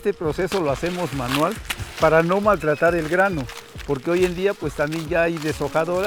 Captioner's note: speaking in foreign language